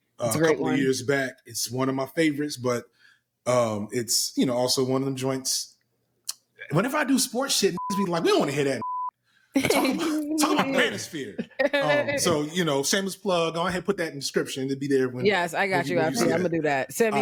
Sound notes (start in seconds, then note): 8.7 beep; 9.6 laughing